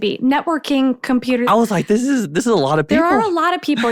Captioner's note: laughs